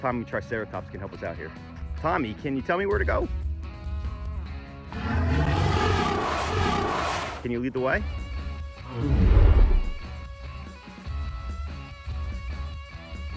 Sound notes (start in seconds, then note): 4.9 dinosaur roars; 8.8 dinosaur grunting